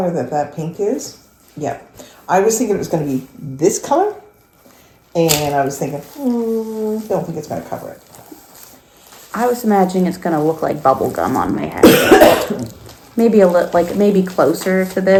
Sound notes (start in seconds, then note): 11.8 cough